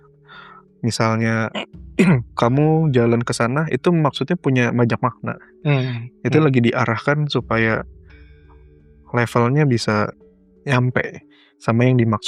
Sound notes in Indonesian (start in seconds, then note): 2.0 berdehem